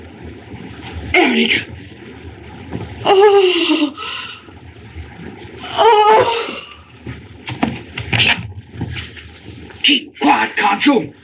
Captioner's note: shudders